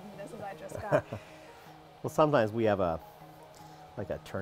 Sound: laughs

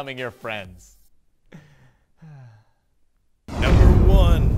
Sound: sigh

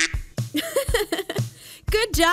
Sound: laughing

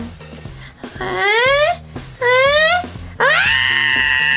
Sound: Jack-Jack cries; Jack-Jack screams

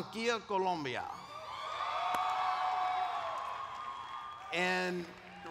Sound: cheers

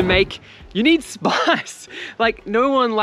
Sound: chuckles

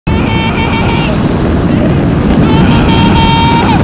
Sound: screaming

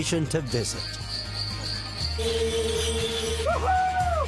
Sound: jingling sound

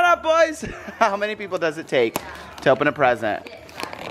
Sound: laughs

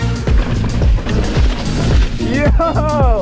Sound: gravel crunching softly

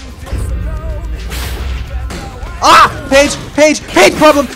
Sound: explosions

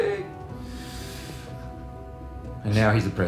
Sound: inhales

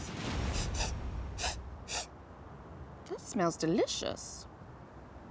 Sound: sniffs

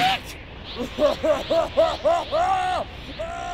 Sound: Cell's maniacal laughter

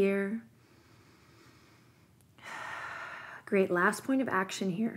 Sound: deep breath

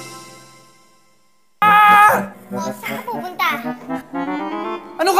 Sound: screams

